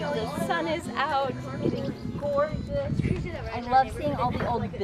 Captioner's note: children murmuring